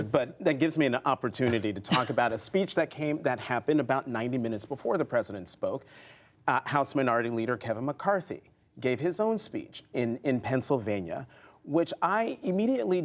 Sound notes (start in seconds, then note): 3.3 laughter